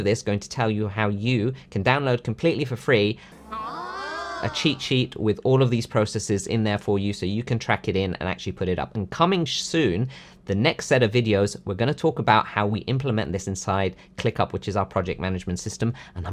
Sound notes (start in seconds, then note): 3.3 mimicking cheering